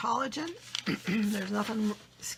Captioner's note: clears throat